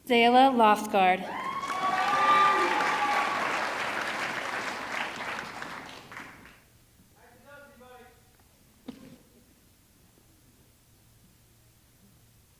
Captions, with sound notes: Zayla Loftsgard, (audience clapping) (audience cheering)